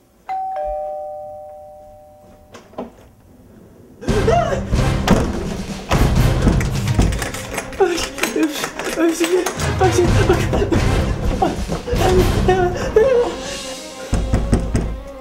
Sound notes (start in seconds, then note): 0.2 door Bell Again; 4.0 yelps; 4.7 door Close; 5.8 suspenseful Theme Music starts to play; 7.5 makes sound of panic; 14.1 door Knock